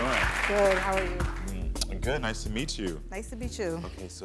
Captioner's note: lips smacking